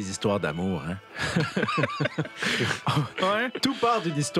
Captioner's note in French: rires